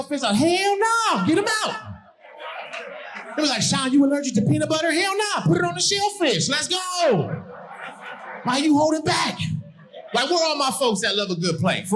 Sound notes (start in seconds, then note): 1.3 audience laughing